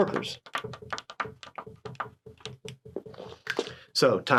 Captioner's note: pen tapping